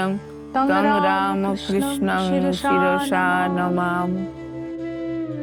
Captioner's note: chanting